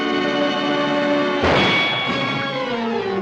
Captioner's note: gunshot